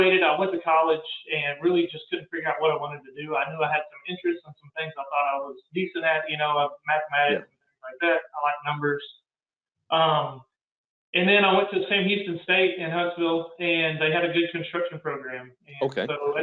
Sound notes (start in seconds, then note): 5.1 murmurs